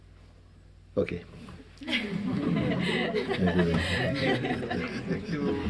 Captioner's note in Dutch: gelach